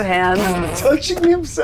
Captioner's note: snorts